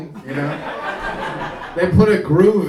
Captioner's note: audience laughing